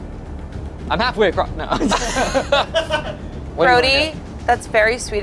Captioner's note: group laughs